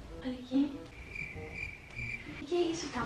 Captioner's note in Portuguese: barulho de grilo